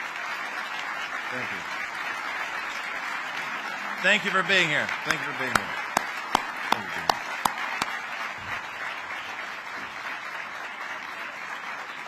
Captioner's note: applause